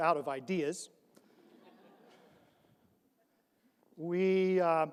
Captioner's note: audience laughs